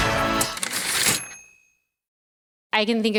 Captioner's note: typewriter ding